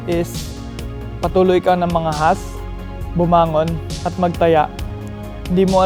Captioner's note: speaks tagalog